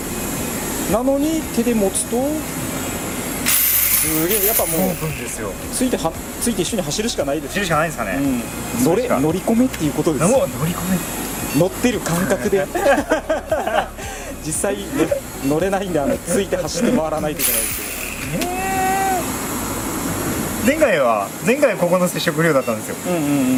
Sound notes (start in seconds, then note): 7.3 laughs; 18.7 laughs